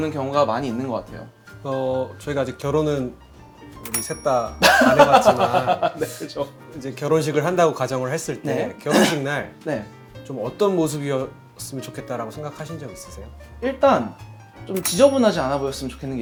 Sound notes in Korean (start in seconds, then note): 4.6 웃음; 8.8 목을 가다듬음